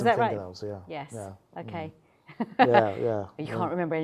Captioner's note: laughs